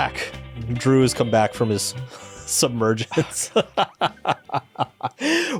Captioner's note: laughs